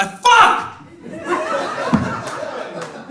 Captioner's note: audience laughs